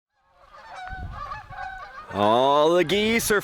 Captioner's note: geese cawing